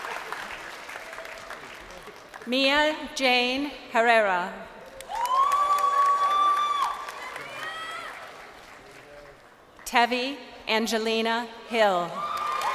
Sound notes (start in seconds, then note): 0.0 crowd cheering; 8.3 crowd cheering